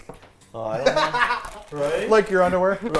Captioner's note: laughs